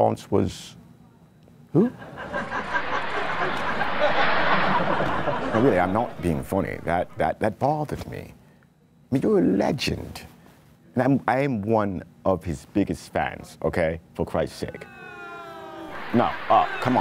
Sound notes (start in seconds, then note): 1.9 laughter